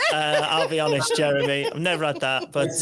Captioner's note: chuckles